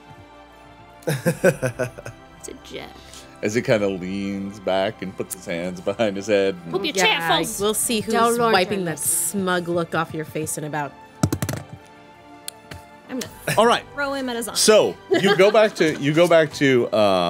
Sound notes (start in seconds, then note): 1.0 laughing; 11.2 thudding